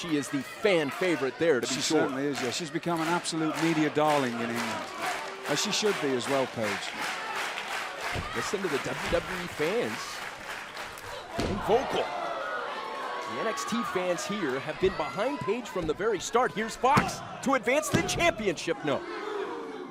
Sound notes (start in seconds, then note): 12.1 crowd cheering